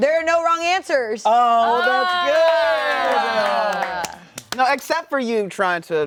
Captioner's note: collective cheers